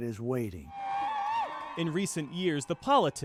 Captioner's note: crowd cheering